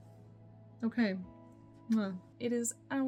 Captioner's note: blows kiss